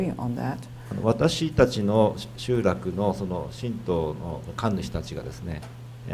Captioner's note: speaking foreign language